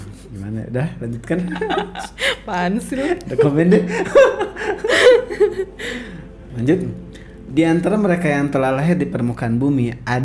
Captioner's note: laugh